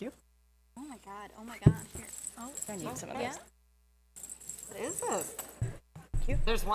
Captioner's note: writers talk amongst themselves